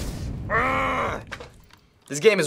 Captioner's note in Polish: naśladowanie syczenia ognia; sfrustrowany jęk